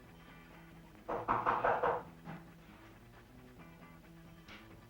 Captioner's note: knocking on door